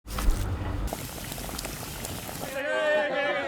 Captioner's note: hotpot burbling; meat squelches; group cheering and chattering